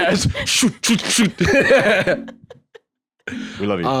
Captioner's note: laugh